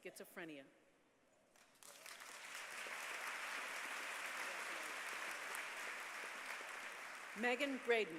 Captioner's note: applause